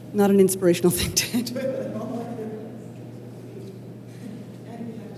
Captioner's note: laughter